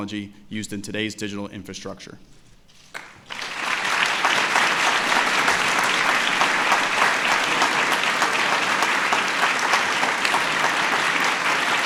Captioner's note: applause